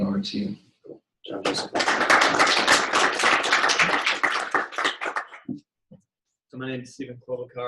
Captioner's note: applause